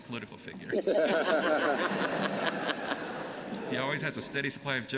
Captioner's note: laughter